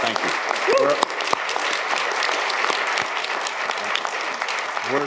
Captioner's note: applause